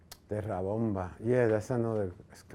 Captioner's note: speaking foreign language